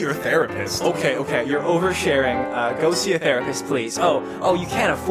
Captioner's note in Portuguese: Voz distorcida